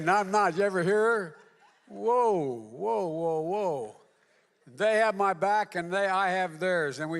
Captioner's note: applause